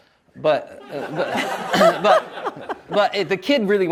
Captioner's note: audience laughs